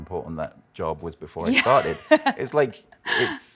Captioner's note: laughs